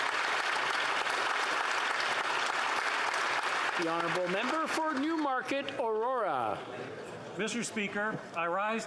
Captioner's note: applause